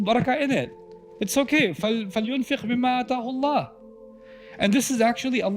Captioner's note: Arabic